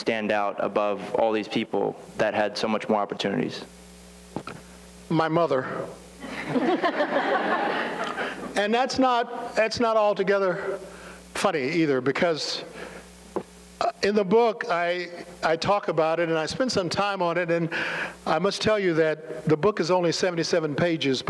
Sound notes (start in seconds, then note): 6.2 laughter